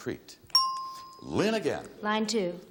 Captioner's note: bell chimes